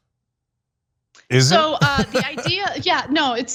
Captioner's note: laugh